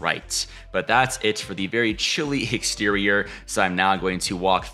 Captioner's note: chuckling